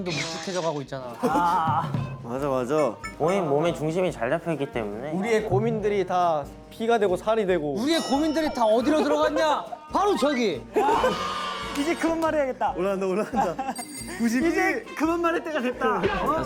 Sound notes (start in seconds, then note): 7.9 speaking eagerly